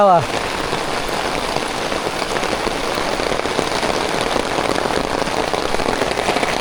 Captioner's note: rain on umbrella